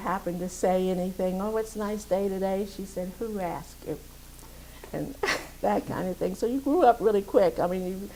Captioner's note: laughs